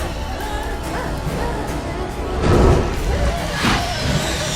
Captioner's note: sobbing